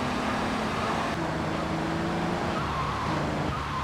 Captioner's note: sirens wailing